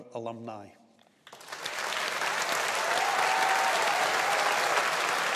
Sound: audience applauding

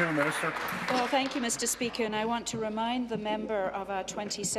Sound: applause

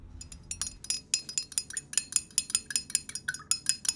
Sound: mug clinking

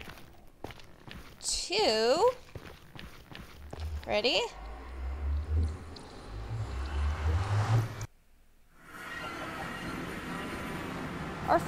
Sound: boat breaks

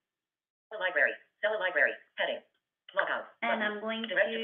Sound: VoiceOver voice

